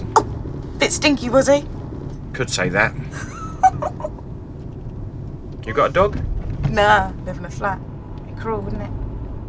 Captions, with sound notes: Oh! Bit stinky, was he? Could say that. [Poppy laughs] You got a dog? No. I live in a flat. Be cruel, wouldn't it?